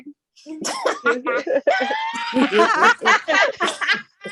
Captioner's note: laughter